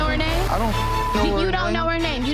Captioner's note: beep